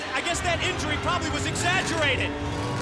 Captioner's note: bell ringing